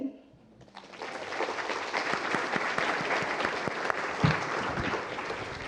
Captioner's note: applause